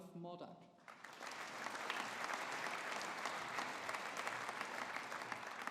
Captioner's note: audience applauding